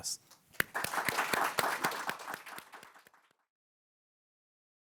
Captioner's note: attendees applauding